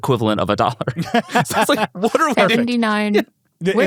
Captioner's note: laughs